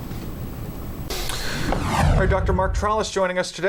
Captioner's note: whooshing